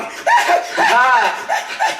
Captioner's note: shrieking snort laugh